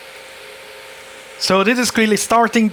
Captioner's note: buzzing